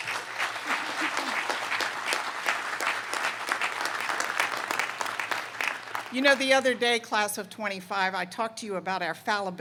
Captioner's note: applause